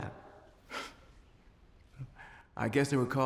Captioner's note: scoffs